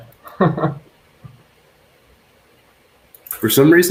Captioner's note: laughs